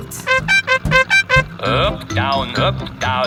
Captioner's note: horn beeping